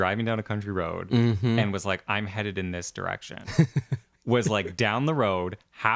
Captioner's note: laugh